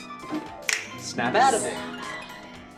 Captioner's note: snaps; snaps